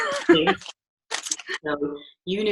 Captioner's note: laughing